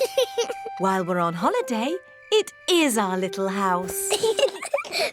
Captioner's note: george laughs; both laugh